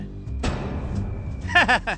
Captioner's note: laughing